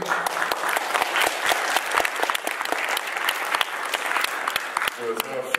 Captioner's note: applause